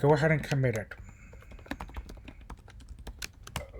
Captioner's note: typing